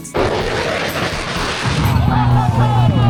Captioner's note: engine revving